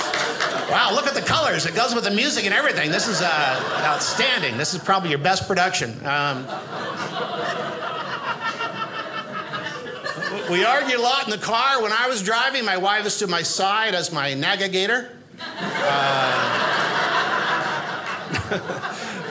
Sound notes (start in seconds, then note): 6.2 audience laughing; 15.4 audience laughing